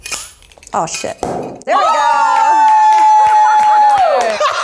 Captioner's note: cork pops; everyone cheers and applauds